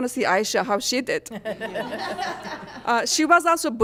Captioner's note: laughter